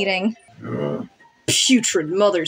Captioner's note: Jæmis Grunts